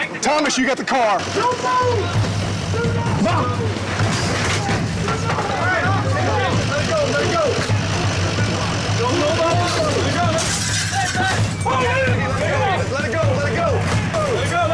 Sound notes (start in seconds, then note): 2.8 men yelling; 7.1 men yelling; 9.6 glass shattering